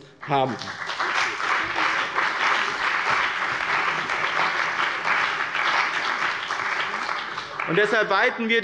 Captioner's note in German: Beifall bei dem BÜNDNIS 90/DIE GRÜNEN und der CDU